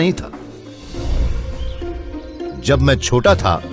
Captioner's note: birds chirping